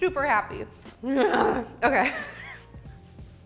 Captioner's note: groans